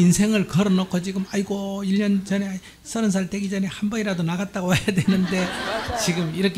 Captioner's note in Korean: 청중 웃음